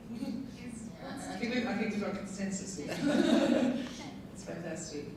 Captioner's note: panel laughing